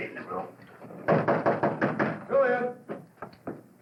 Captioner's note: knocking